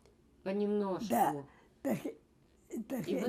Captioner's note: mumbling